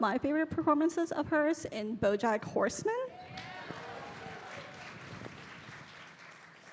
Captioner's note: audience cheering